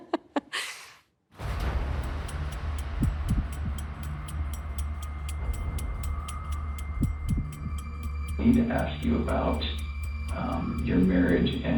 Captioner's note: laughs